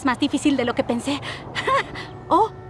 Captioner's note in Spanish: ríe